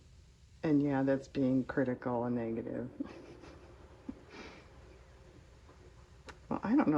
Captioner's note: laughs